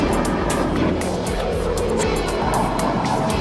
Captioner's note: jet engine